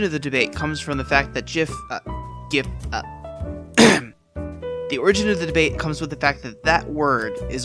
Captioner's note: ahem